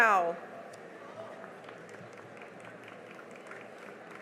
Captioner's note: cheering and applause